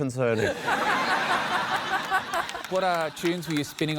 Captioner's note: laughter